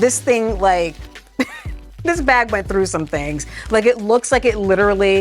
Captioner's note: chuckles